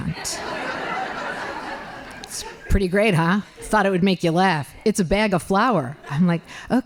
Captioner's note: laughing